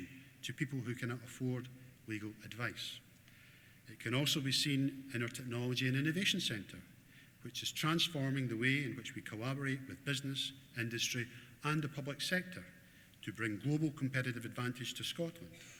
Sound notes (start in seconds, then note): none